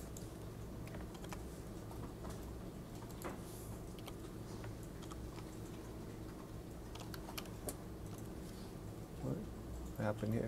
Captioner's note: typing